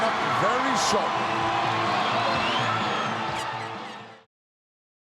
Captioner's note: audience cheering